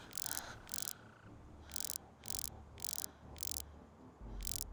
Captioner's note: light buzzing